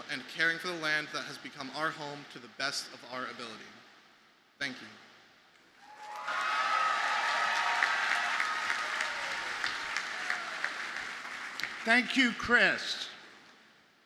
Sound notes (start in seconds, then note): 5.8 audience cheers and applauds